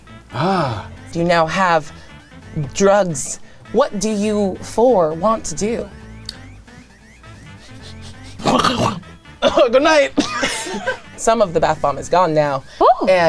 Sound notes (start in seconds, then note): 7.3 snorting; 7.4 sniffing; 10.1 people laughing